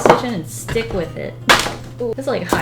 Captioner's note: smack